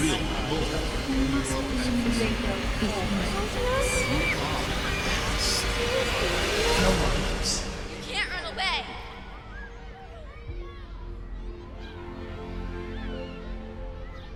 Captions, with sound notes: - [Ghostly Voice] You will know. - [Ghostly Voice] You must remember your home. - [Ghostly Voice] Anya? (voices chattering) - [Ghostly Voice] You can't run away. (slow orchestral music)